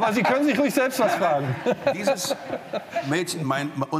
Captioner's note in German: lachend